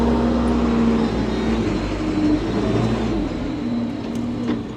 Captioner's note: machinery rumbling